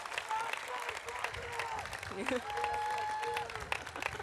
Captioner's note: audience applauding; audience cheering; crowd yelling